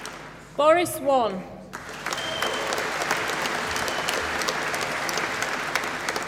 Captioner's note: applause